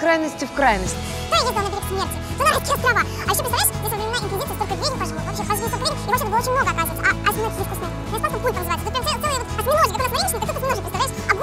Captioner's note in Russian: быстрая перемотка слов